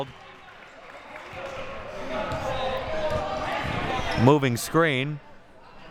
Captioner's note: audience chattering and yelling